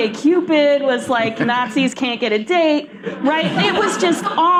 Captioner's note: laughter